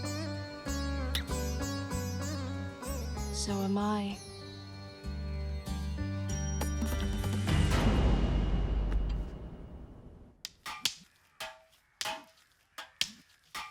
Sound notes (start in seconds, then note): 6.4 suspenseful music; 9.9 clanging